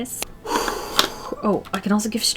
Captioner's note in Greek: Βαθιά εκπνοή